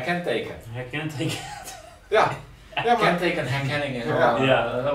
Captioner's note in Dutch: lacht